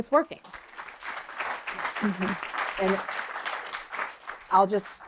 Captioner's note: applause